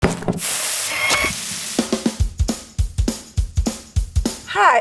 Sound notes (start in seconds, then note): 0.0 pestle banging; 0.0 grinder whirring; 0.1 eggs sizzling; 0.4 meat sizzling; 2.0 upbeat music